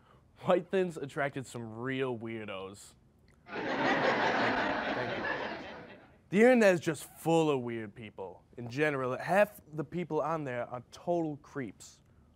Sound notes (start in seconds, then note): 3.5 crowd laughing